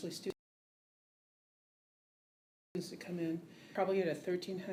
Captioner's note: audio goes out